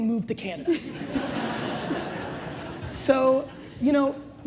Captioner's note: audience laughs